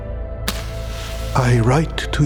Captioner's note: match striking